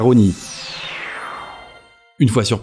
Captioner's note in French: bruit de téléportation